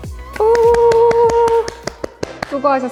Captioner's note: round of applause